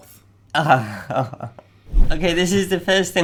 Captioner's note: nervous laughter